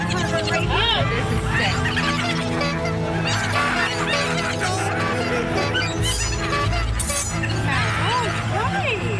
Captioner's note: hoots; maniacal laughter intensifies